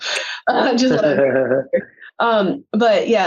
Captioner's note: giggles